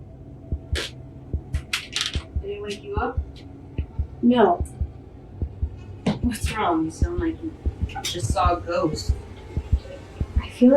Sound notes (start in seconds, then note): 5.3 heart beating; 9.1 heartbeat speeding up; 9.1 music swelling